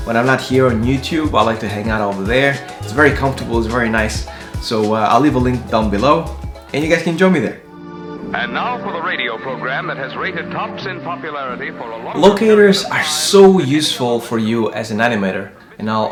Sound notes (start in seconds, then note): 8.7 radio presenter speaking